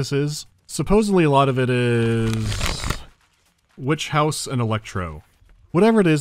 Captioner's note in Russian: листает страницы